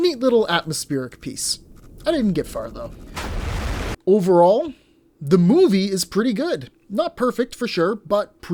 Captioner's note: crashes